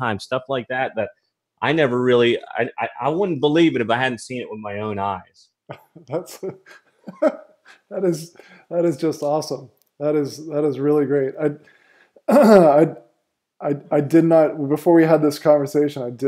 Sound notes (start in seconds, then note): 5.7 laughs